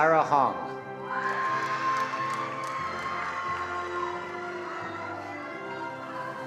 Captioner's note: attendees cheering and applauding